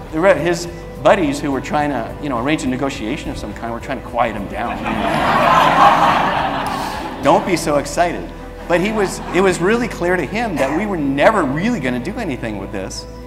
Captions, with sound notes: There were his buddies, who would trying to, you know arrange a negotiation of some kind. We're tying to quiet him down [audience laughs] Don't be so excited. But he was, he was really clear to him that we were never really gonna do anything with this.